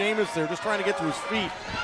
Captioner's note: crowd chatter